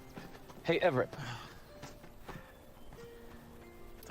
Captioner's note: sighs